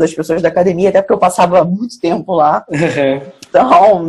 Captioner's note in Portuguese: risos